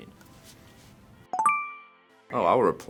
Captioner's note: ding